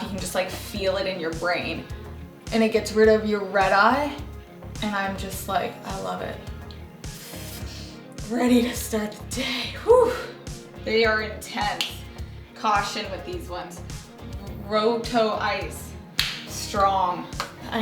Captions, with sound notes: you can just like feel it in your brain. And it gets rid of your red eye and I'm just like, I love it. Ready to start the day! (sighs loudly) They are intense! Caution with these ones, Rohto Eyes, strong.